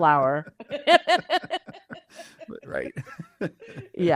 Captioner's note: both laugh